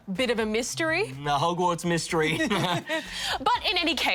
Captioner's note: chuckles